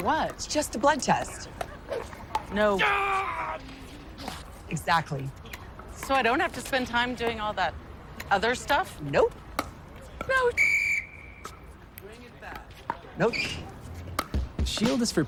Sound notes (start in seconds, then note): 10.5 blowing whistle